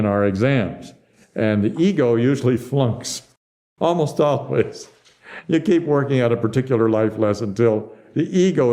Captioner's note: laughs